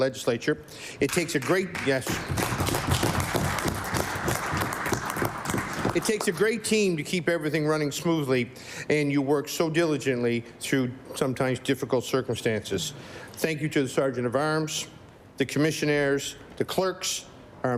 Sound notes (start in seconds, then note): 7.6 applause